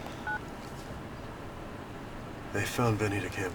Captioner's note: phone beeps